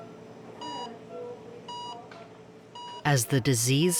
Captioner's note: monitor beeping